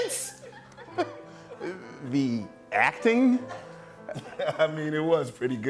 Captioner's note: chuckles